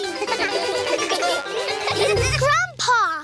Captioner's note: all giggle